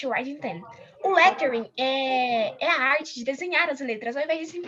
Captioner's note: non-english